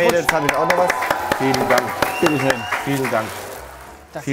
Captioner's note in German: Applaus, Jubel